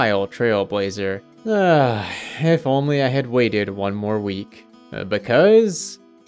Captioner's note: sigh